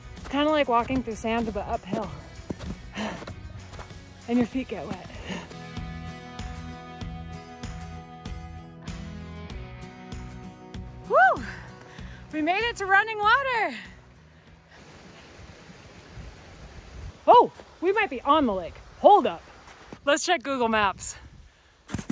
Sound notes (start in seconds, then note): 14.7 river rushing